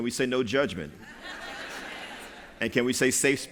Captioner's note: laughter